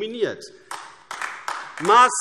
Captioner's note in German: Beifall AfD